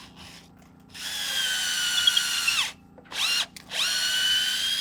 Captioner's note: drill buzzing